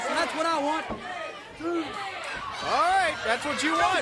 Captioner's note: crowd cheering